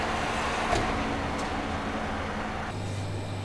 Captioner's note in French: Bruit de la route